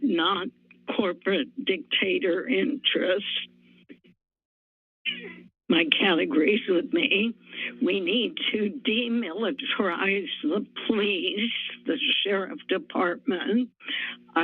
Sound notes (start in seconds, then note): 5.1 pause